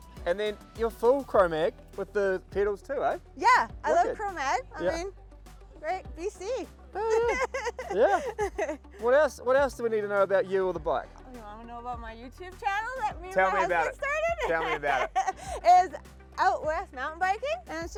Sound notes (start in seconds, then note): 7.0 laughs